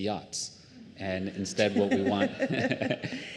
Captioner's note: laughter